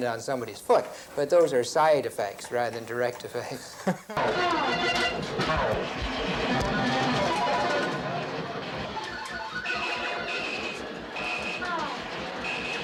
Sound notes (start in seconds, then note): 8.9 video games beeping